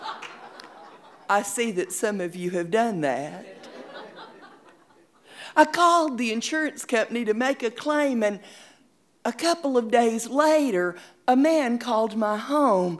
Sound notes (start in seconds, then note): 0.0 audience laughing; 3.4 audience laughing